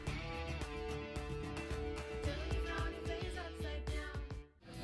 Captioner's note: uplifting indy music; audience cheering; upbeat rock music